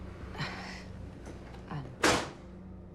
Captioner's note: porte qui claque